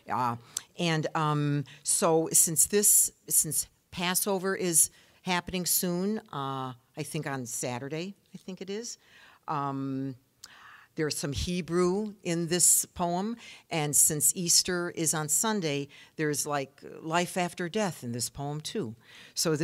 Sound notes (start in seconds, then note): none